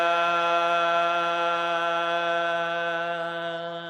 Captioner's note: none